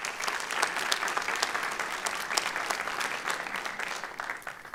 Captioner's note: applause